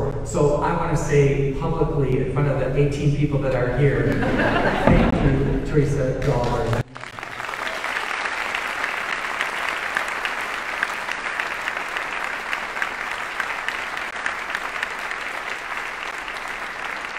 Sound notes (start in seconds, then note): 4.0 audience laughs; 7.6 audience applauding